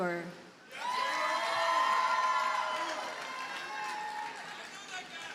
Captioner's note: audience cheers and applauds